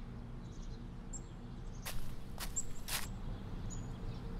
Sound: birds chirping

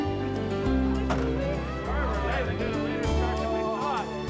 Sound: all chattering

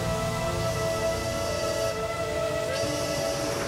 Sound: train whistle blowing

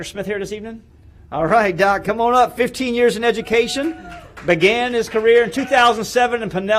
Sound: applause

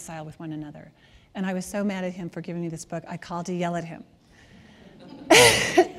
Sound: laughter

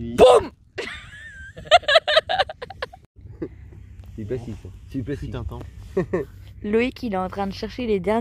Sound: laughs

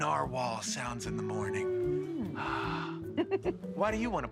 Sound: narwhal humming

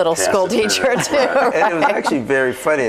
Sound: overlapping chattering; group laughs

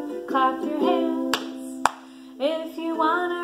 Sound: hands clapping

